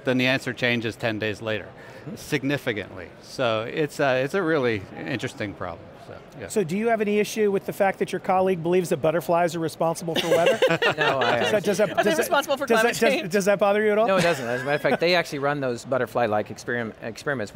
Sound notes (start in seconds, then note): 10.2 laughing